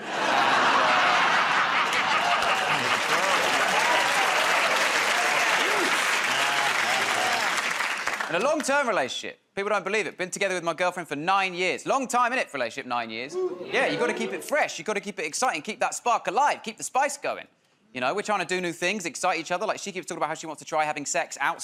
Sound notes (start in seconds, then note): 1.8 laughter; 3.7 applause